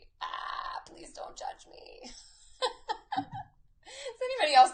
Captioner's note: laughs